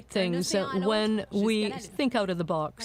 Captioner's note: speaking French